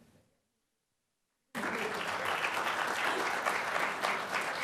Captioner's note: applause